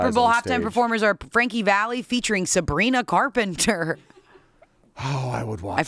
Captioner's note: chuckles